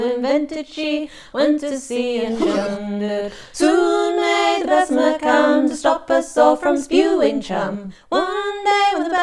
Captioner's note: hugh!